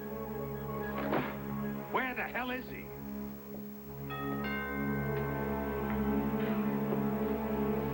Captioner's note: doorbell rings